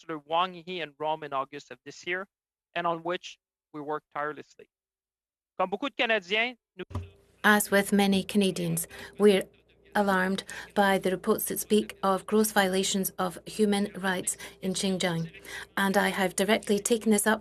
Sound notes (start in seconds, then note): 14.0 speaking French